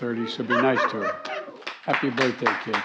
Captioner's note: laughter; applause